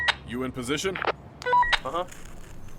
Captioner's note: walkie talkie; walkie talkie